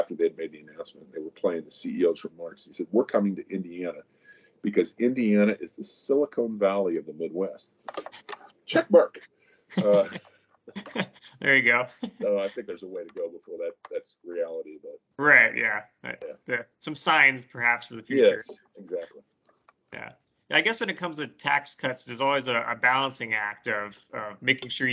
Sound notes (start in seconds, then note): 9.8 both chuckling